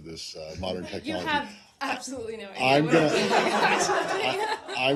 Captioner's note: laughter